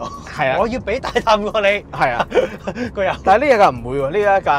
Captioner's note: laughs